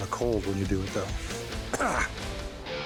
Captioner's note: coughs